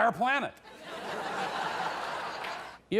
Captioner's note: audience laughing